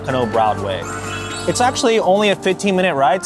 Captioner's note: bell tinkling